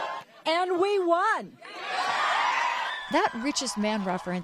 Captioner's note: laughter